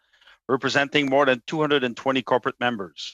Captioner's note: speaking in French